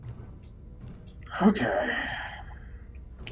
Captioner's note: sighing